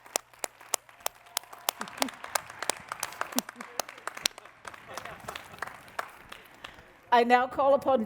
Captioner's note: applause